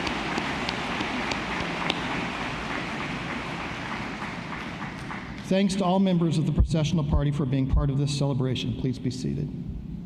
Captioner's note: applause